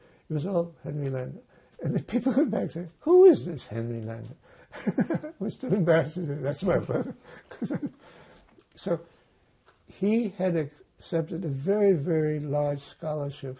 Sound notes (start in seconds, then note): 4.7 laughing